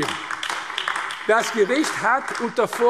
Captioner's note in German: Beifall AfD